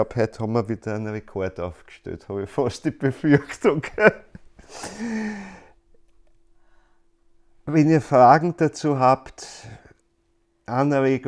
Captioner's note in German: Er lacht